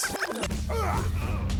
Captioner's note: grunting, blows landing